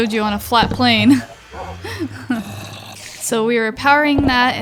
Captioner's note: laughs